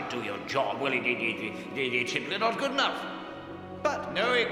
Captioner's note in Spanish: tartamudeando